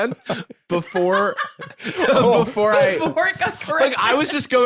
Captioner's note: laughing